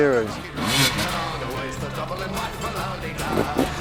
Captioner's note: engine revving